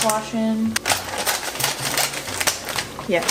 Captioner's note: cutting open bag